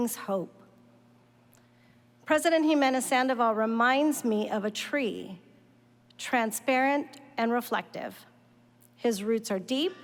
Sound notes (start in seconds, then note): none